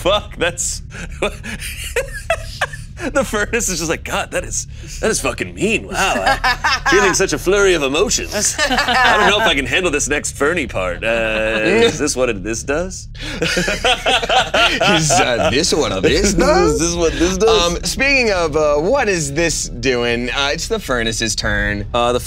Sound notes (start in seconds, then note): 1.5 laughing; 5.8 laughing; 13.1 laughing